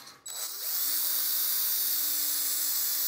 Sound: whirring of drill

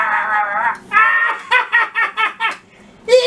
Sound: PURPLE BIRD laughs

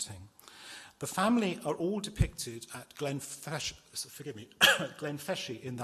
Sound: coughs

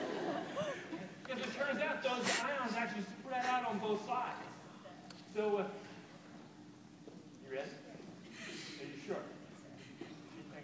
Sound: laughter

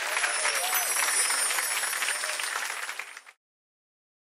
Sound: chimes tinkling

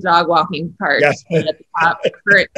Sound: John laughing

